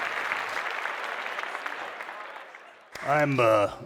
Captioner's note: clapping